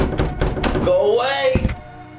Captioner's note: loud knock on door; eerie music